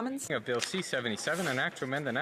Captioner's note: speaking French